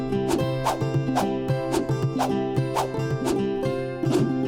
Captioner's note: text whooshing; upbeat music